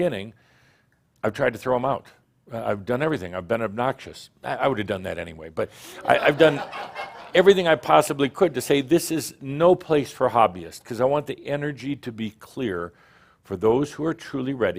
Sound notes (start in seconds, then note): 6.0 some chuckles